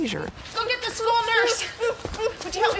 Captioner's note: moaning